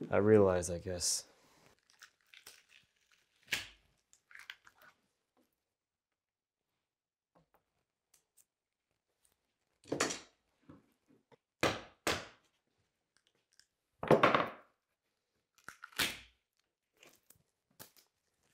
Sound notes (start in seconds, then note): 11.5 mallet bangs